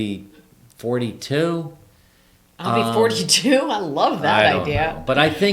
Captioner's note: laughs